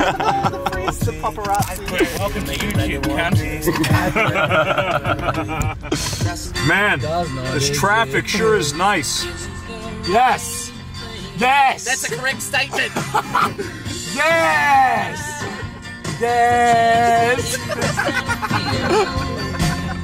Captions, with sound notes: its the paparazzi welcome to youtube cunt *laughs* Man this trafic sure is nice yes! yeess! thats a correct statement! yeeeeesss! yeeeeesssss! *more laughter*